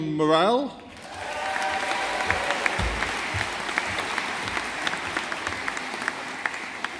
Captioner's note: audience applauding